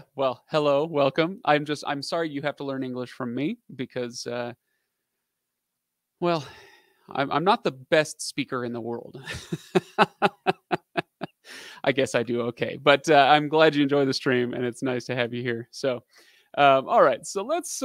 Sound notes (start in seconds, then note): 9.2 laughing